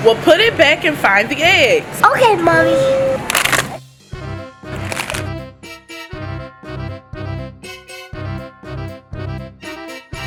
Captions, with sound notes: - Well put it back and find the eggs! - Okay mommy! (plastic crinkling) (curious music)